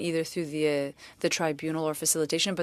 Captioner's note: speaking French